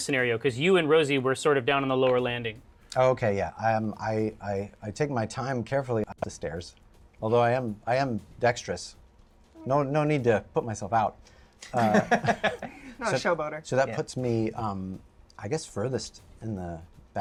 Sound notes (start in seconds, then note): 11.6 laughs